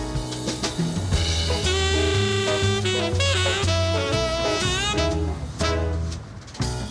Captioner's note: uptempo cheery music; car engine roaring